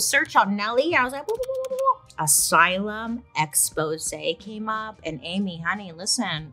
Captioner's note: warbles